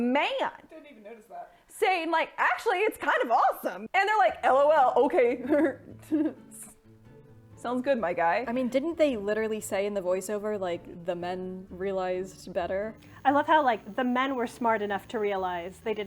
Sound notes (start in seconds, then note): 5.5 laughs mockingly